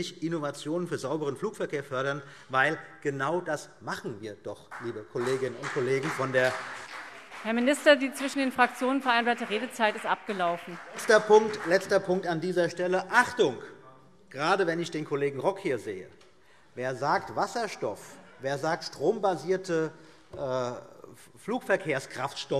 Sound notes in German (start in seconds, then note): 6.3 Beifall BÜNDNIS 90/DIE GRÜNEN